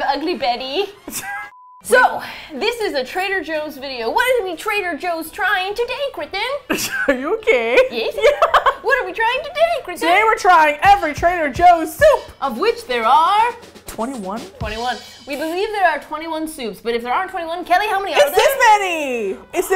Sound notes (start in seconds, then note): 1.0 laughs; 5.8 with lisp; 6.7 laughs; 8.2 with lisp; 13.5 drum roll